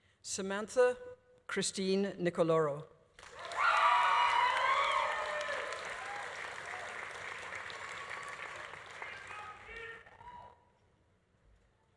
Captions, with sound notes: Samantha Christine Nicoloro. (audience applauding) (audience cheering)